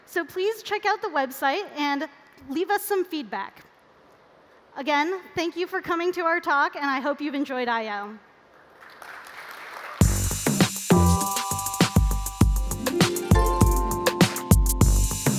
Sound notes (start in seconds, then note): 8.5 applause